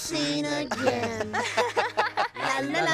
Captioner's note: laughing